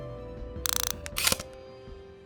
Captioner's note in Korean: 다이얼 소리